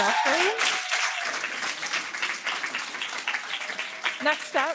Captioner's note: audience clapping